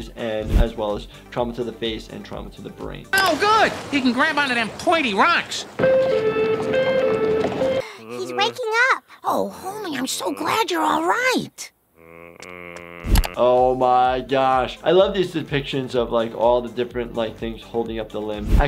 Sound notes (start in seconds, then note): 5.7 sirens wailing; 12.0 Homer mumbles